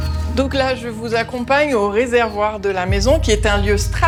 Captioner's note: French spoken audio